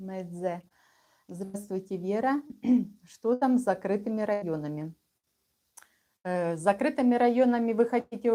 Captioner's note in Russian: откашливается